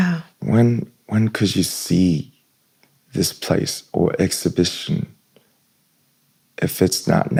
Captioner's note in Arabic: يمسح الحلق